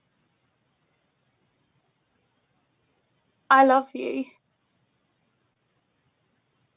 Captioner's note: none